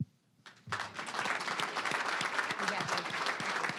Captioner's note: applause